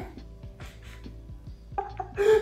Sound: snickers; slight laughter

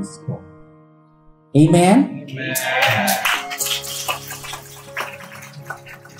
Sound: applause

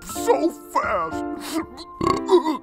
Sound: sobbing

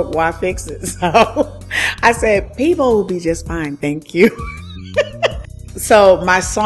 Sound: laughs

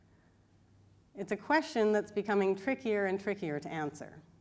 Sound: none

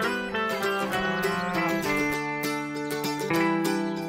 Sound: cow mooing

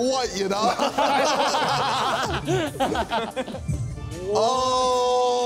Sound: Sidemen laughing

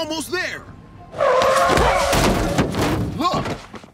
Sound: tires screech

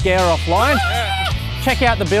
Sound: exclaims

